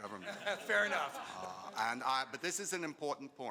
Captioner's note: laughing